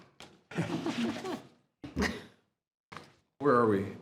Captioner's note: board laughing